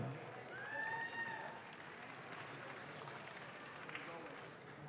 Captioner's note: audience claps